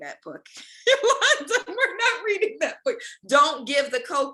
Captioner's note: laughs